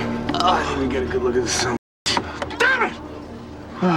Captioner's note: groans; shouting